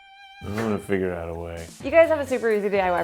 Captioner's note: laughs